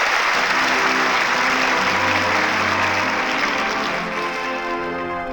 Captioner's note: applause